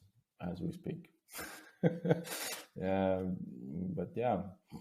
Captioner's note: chuckles softly